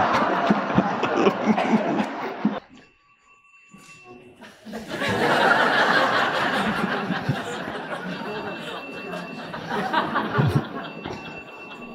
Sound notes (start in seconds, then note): 0.0 audience laughing; 4.9 phone ringing; 8.1 audience laughing